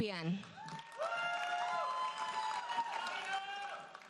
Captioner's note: audience cheers and applauds